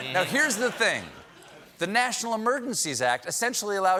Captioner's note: laughter